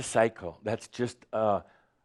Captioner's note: none